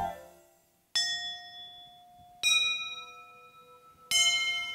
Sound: bells chiming

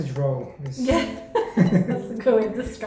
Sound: laugh

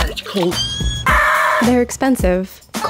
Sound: people screaming

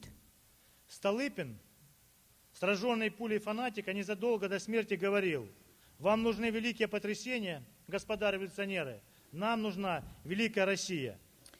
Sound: speaking Russian

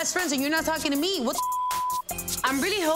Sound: beep

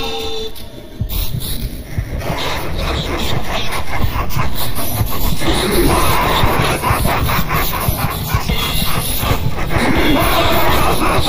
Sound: maniacal laughing

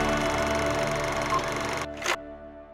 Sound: film projector sound

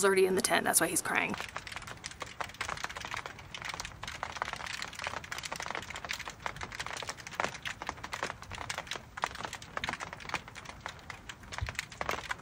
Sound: rain drops on tent

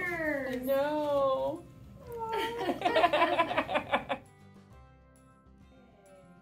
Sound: laughs

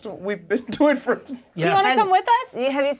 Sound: laughs

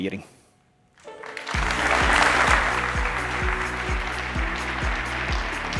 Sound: applause

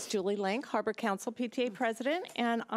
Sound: none

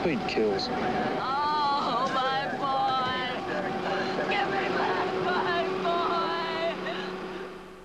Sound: crying

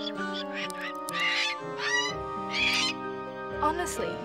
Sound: squawking

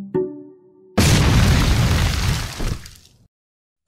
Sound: explosion

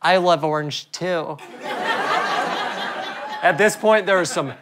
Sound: audience laughter

